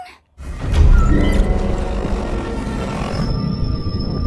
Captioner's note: suspenseful music plays; growling; distorted whooshing, ringing